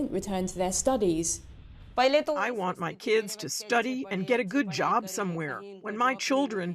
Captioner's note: through translator